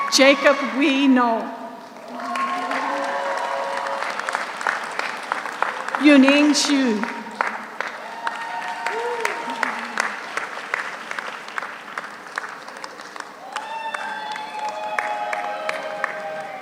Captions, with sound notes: Jacob Huy Ngo. (audience cheers) (audience applauds) Yuning Xu. (audience cheers) (audience applauds)